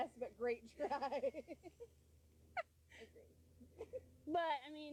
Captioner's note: laughing